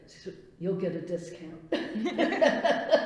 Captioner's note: laughs